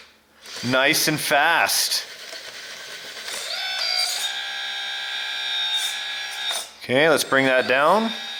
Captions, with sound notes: Nice and fast. (motor whirs) Okay, let's bring that down.